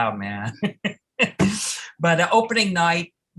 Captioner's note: laughter